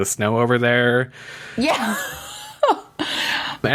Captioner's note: laughs